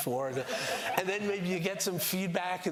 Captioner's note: laughter